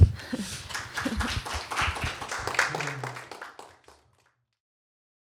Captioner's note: applause